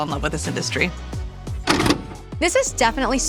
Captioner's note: videotape pauses